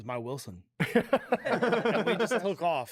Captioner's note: laughs